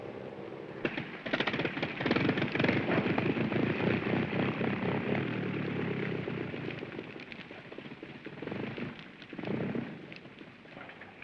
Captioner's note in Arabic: محرك الطائرة يتلعثم